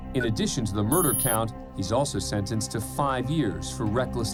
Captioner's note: none